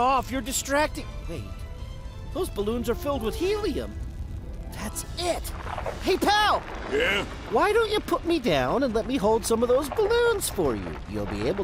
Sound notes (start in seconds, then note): 5.4 distant rumbling